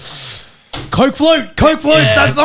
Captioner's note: sipping dry air